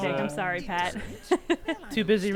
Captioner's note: laughs